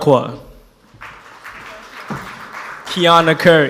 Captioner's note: audience applauds